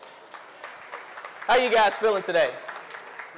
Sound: audience applause

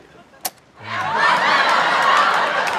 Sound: recorder clicks; audience laughter

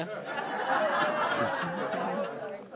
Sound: laughter

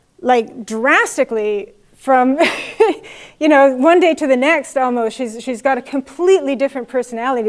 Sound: laugh

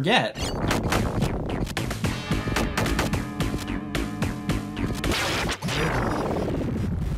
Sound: funky music; punches thudding

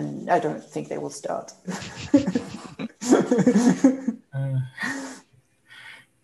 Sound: laughs

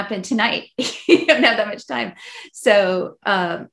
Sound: laughs

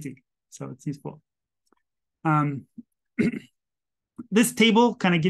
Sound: clears throat

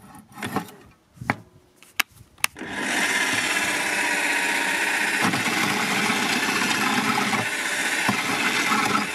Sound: engine stop, drill bit blocked

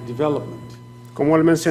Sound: speaking foreign language

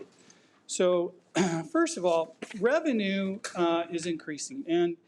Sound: clears throat

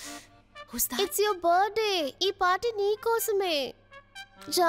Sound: mouthing

